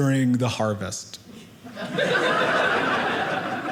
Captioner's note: audience laughing